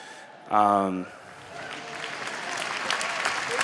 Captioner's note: applause